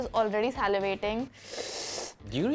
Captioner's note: slurping